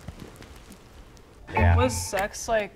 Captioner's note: beeps; clock ticking